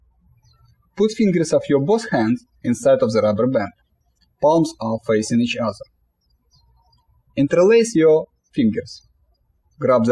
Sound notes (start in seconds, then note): 6.6 birds chirping